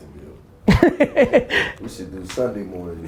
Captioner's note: laughter